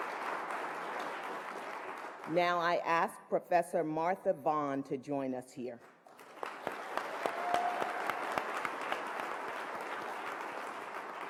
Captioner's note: applause